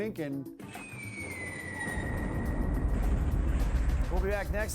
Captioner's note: bomb explodes